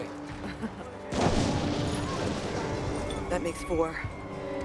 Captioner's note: Louise laughs; explosion blasts; glass shattering; police siren wailing